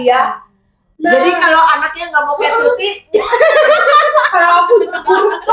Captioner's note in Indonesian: tertawa